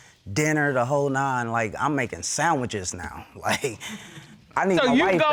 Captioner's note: chuckles